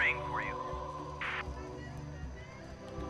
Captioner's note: radio static crackles